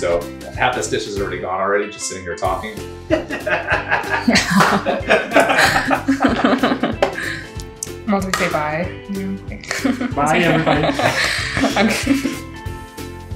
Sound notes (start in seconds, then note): 3.1 everyone laughs; 11.3 laughs